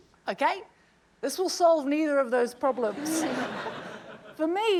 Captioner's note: laughter